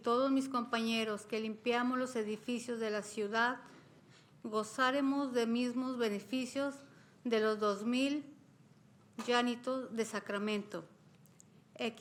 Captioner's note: speaking spanish